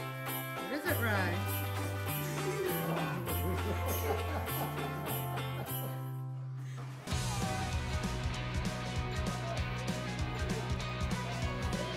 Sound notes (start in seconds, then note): 2.9 soldier giggles; 4.0 bystander laughing